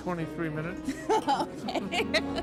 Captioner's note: laughs